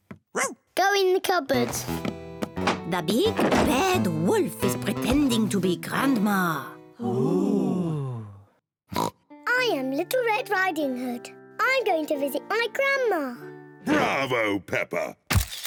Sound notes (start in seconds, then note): 0.1 barks; 6.7 all gasp; 9.0 snorts